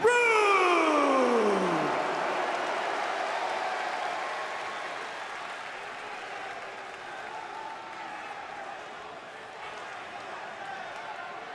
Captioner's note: crowd cheering